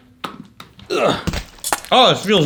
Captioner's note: grunting; liquid squirting